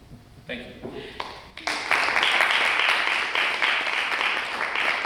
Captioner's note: audience claps